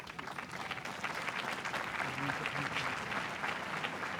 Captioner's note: applause